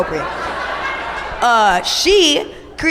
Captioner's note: audience laughs